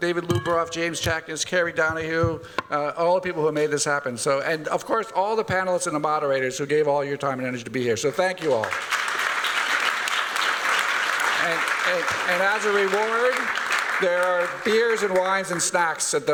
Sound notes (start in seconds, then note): 8.3 applause